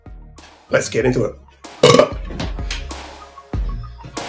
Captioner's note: belch